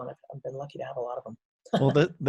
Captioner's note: laughs